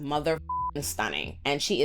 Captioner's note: beep